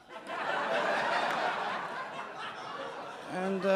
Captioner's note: audience laughing